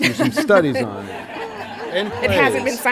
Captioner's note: laughter